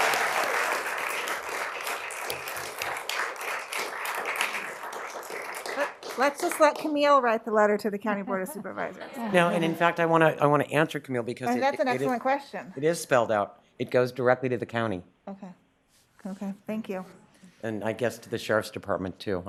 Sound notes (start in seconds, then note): 2.7 cheering and applause